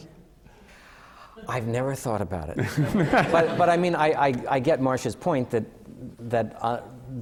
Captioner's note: laughter